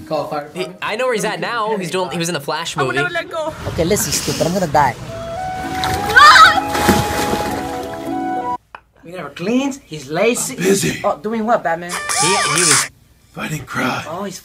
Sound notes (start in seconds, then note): 5.4 water splashes; 6.0 woman screams